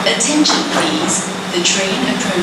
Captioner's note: platform doors locked